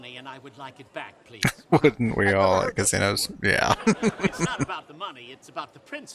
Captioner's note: chuckling